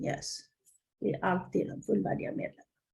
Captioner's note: Swedish